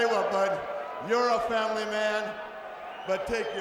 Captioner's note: crowd chatter